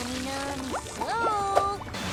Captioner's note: bubbles bubbling